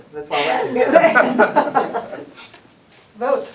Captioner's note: laughter and applause